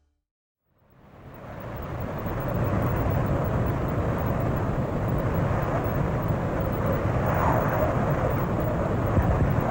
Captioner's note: desert wind blows